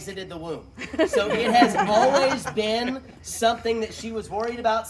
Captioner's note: laughter